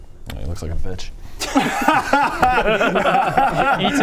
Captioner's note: spiteful laughter